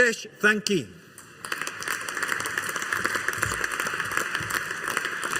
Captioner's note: audience applauding